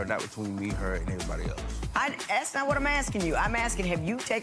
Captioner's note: none